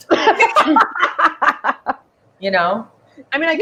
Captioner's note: laughing